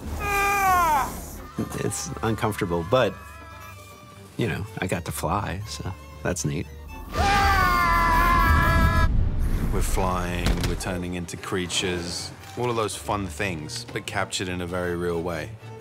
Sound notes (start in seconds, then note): 0.3 grunts; 7.0 screams